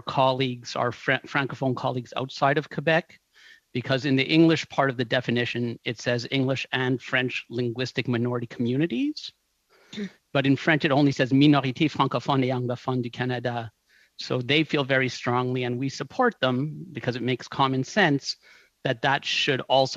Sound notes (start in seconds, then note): 17.9 speaking French